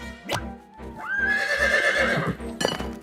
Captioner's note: horse whinnies